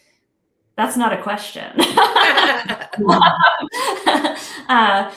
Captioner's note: laughs